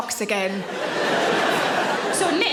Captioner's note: audience laughing